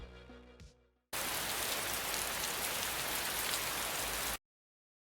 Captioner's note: rain